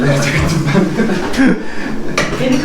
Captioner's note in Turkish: Gülüşmeler